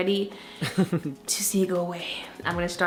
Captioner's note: laughs